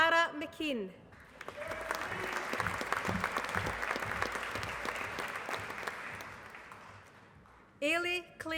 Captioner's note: applause